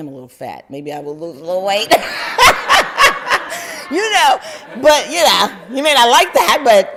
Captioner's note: laughter